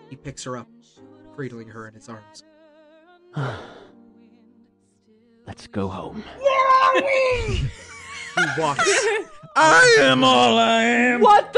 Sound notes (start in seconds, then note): 3.3 sighs